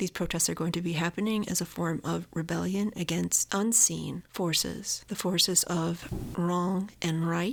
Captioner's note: loud boom of fireworks